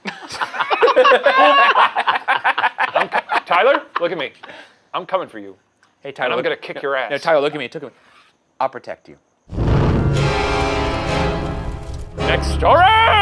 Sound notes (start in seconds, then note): 0.0 group laughing; 9.5 smoke whooshing; 9.6 upbeat intense music